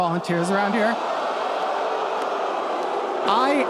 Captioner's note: audience boos